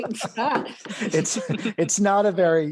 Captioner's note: laughter